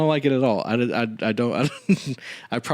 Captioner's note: laughs